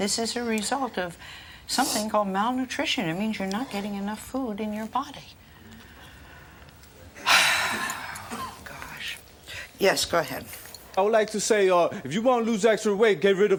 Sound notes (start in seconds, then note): 7.2 sigh